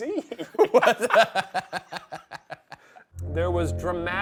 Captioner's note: both laugh